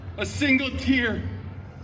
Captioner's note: none